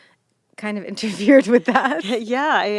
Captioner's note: laughing